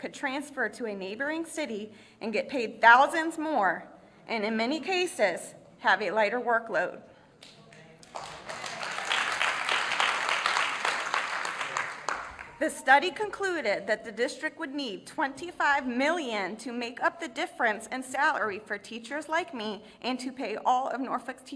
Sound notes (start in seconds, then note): 8.0 applause